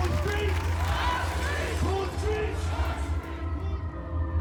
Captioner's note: crowd noise